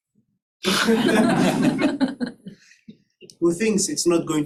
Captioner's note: laughter